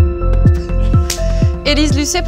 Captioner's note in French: clap